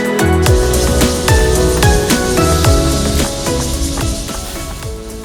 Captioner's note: cicadas buzzing